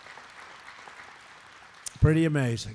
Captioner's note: applause